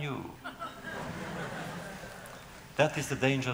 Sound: laughter

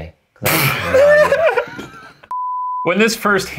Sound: laughing

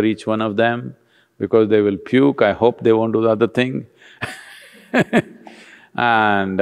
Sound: laughs

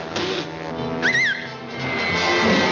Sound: whistles

